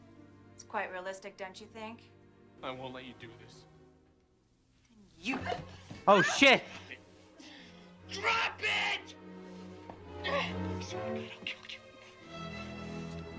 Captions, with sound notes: "It's quite realistic, don't you think?" "I won't let you do this." "Then you—" "*gasps*" Oh shit! "DROP IT!" "*whispering* I swear to God I'll kill you."